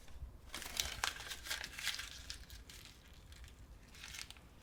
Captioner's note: paper rustling